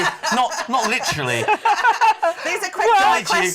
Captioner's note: laughing